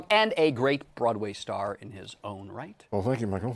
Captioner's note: snooty voice